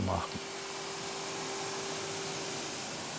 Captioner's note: A droning whir